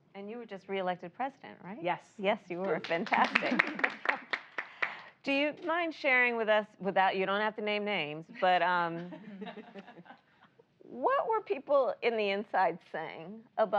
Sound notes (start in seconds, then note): 2.6 applause; 9.0 laughter